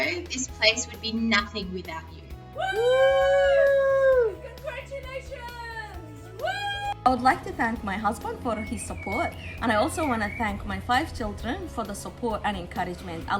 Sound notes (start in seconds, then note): 2.5 celebratory whoopings; 6.1 whooping